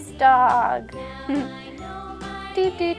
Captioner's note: laughs